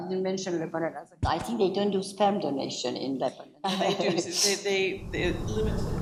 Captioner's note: laughs